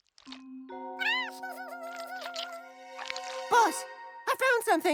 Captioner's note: chittering